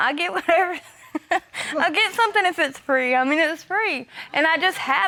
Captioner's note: laughs